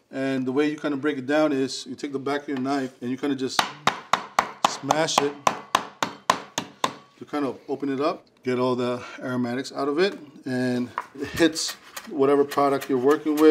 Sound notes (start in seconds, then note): 5.3 knife banging